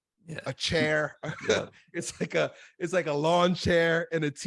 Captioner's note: laughs